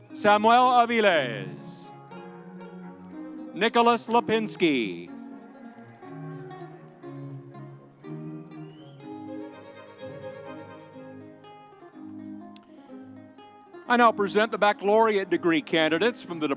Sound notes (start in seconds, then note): 2.1 audience cheering; 10.0 light music continues